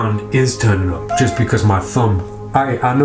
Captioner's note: cat meows